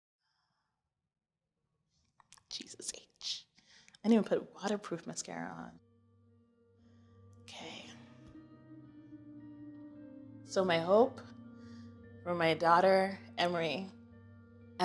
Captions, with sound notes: - (whispers) Jesus H. I didn't put waterproof mascara on. (Inhales) okay. So my hope, for my daughter Emory,